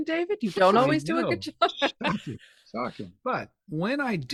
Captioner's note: chuckles